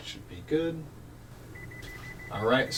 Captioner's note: beeping sound